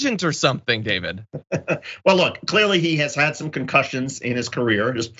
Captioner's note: laugh